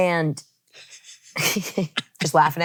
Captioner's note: laughs